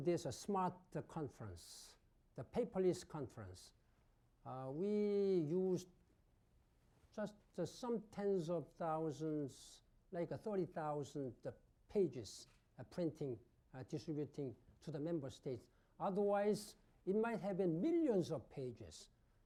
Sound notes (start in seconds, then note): 5.5 off mic